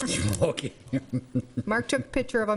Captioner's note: laughing